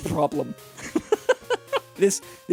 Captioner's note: laughs